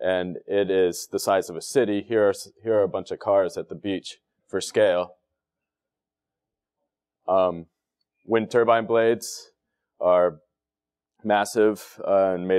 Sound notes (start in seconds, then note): none